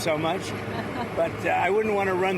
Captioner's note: laughter